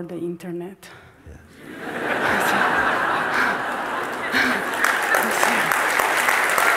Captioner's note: laughter and clapping